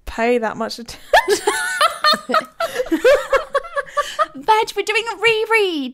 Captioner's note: laughing